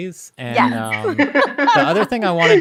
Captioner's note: both laughs